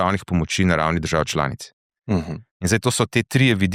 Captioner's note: coughing